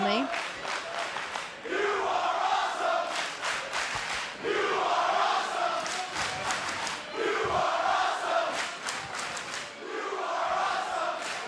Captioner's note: crowd cheering